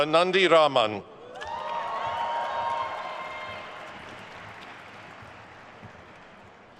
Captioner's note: attendees cheering and applauding